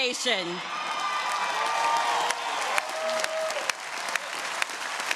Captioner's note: audience cheering